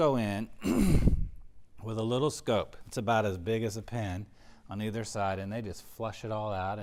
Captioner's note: cough